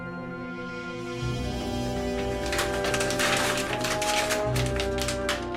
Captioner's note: scrunching paper